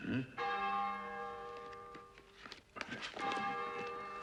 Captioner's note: church bells chime